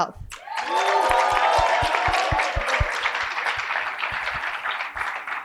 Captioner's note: cheering and applause